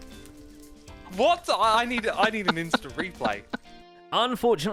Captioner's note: still laughing